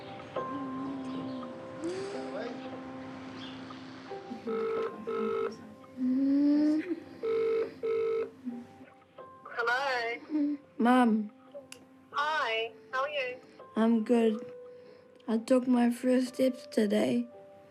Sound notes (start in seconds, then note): 0.0 poignant music; 4.4 ringing tone on speaker; 7.2 ringing tone continues